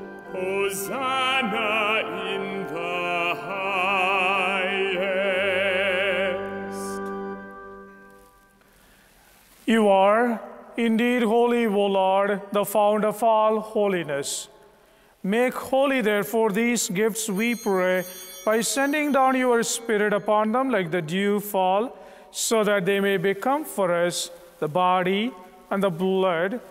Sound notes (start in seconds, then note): 17.2 bell ringing